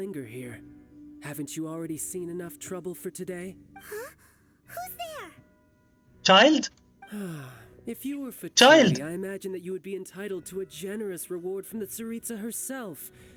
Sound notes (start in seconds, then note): 5.2 sigh